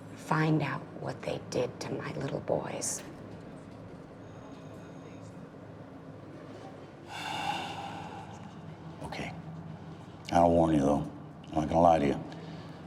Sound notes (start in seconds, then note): 7.1 sighs